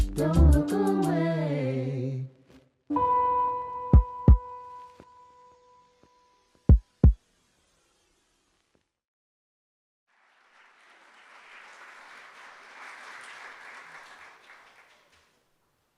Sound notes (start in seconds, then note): 3.9 heart beating; 10.1 audience applauding